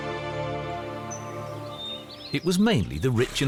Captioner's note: birds tweet